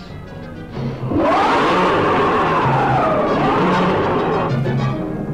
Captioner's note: monster roaring